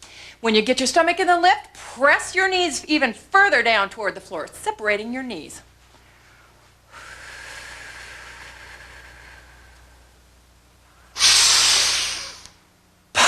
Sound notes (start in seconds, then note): 6.8 breathing